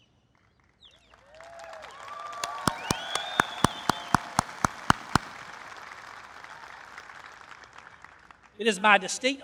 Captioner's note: applause